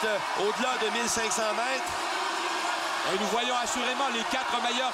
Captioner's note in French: cris de la foule